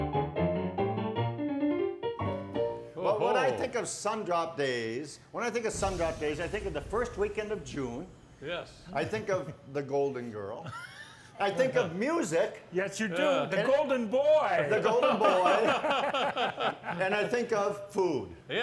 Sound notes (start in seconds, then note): 8.9 chuckles; 14.8 laughing